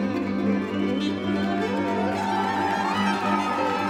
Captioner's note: cheering and applause